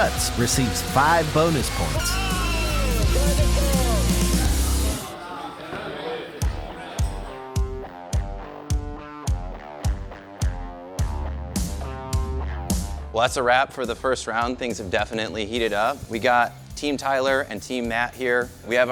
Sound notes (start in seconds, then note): 4.7 chatter; 6.2 upbeat music